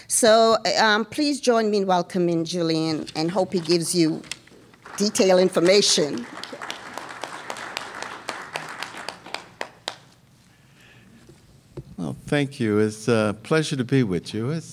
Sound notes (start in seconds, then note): 7.5 applause